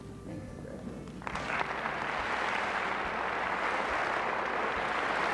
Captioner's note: applause